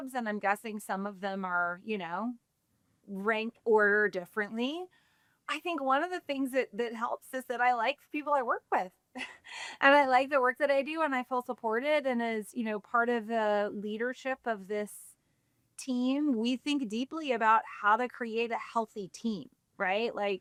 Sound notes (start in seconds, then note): 9.2 chuckles